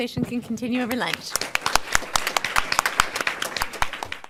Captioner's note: audience applauds